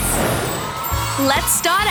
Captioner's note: kids cheering